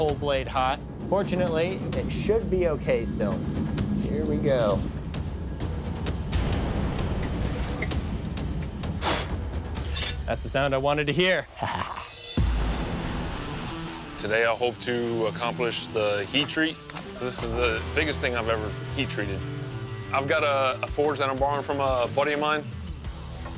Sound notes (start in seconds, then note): 8.8 blowing; 9.8 blade scraping